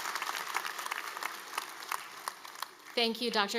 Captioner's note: applause